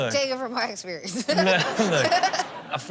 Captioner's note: Chanel chuckles